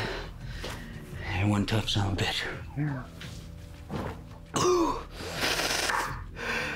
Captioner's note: coughs